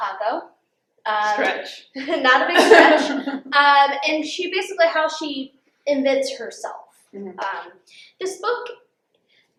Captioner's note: laughter